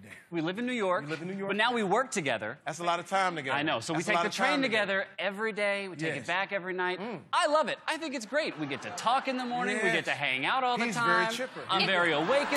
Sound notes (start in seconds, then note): 8.4 laughter; 11.8 laughter